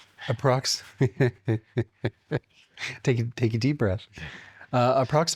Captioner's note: laughs